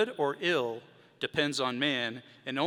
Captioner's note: none